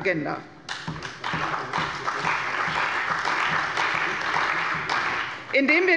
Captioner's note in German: Beifall bei der CDU und dem BÜNDNIS 90/DIE GRÜNEN